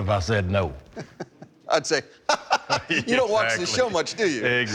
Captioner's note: laughs